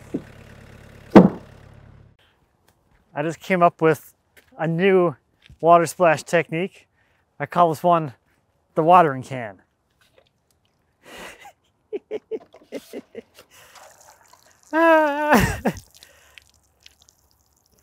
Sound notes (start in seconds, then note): 11.2 laughs; 13.4 water trickling